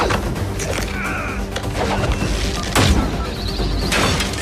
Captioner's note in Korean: 신음